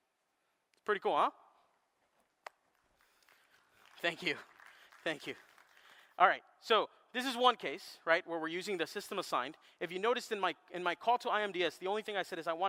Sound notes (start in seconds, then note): 5.9 applause